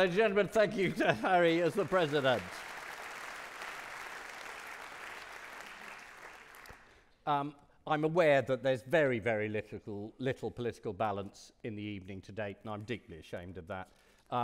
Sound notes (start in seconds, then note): 0.0 audience clapping; 0.0 audience laughing; 2.7 audience clapping